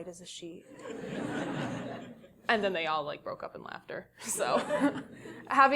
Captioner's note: laugh